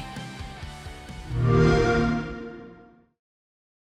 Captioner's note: xbox chime